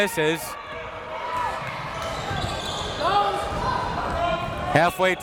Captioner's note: crowd members shouting